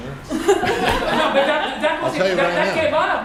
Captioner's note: laughter